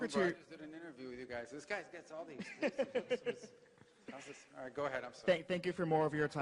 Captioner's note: laughter